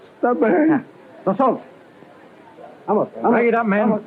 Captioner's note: speaking portuguese